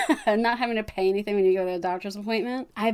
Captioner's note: laughs